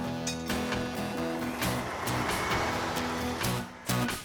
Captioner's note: engines Running